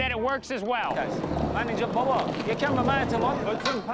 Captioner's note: trader speaking foreign language